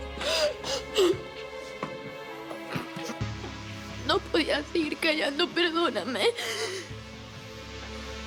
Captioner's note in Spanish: Sollozos